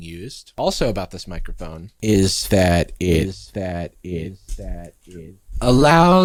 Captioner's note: voice echoing